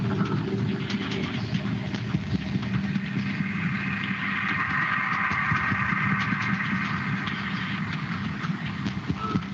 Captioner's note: beeping